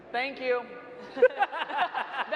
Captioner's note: panel laughs